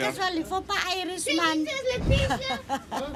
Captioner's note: speaking foreign language; laughs